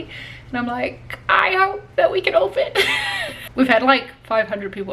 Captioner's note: laughs